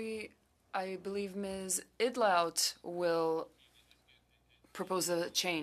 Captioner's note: speaking French